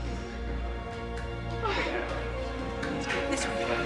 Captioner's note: woman gasps